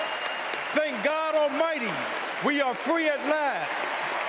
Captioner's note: cheers and applause